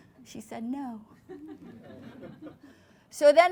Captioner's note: laughter